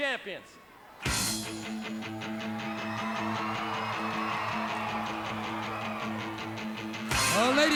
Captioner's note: crowd cheering; rock music